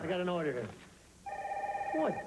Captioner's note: telephone rings